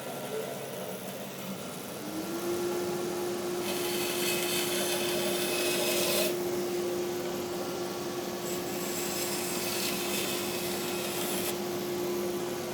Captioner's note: machine whirring; machine whirring continues